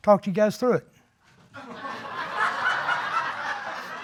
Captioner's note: audience laughing